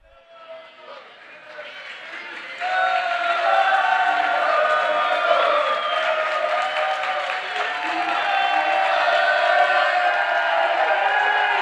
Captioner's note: applause